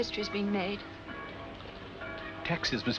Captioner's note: church Bells